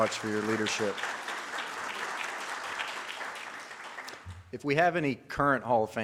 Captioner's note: audience claps